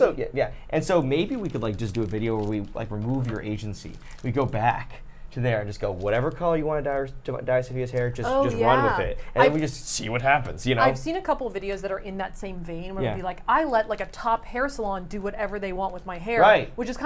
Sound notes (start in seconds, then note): none